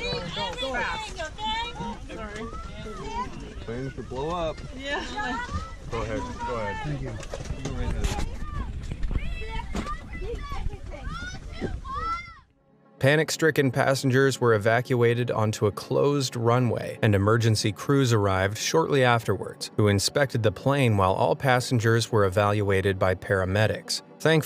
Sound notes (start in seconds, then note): 9.2 passengers chattering